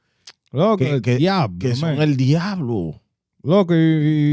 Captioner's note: speaking Spanish